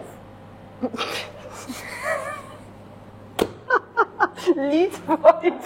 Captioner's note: laughter